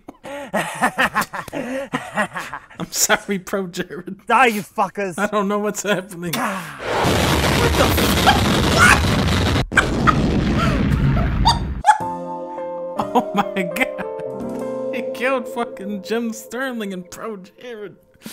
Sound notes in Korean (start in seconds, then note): 0.2 크헿헿핳핳헤헤헿헿; 9.8 핰핰ㅋ캌ㅎㅎ캏ㅋ하캏ㅎ카핳ㅎ핰하